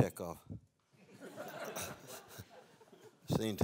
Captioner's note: laughter